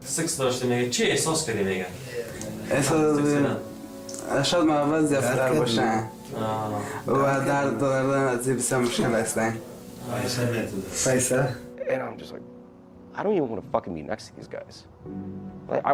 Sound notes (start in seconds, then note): 0.1 interpreter speaks in foreign language; 2.6 boy speaks in foreign language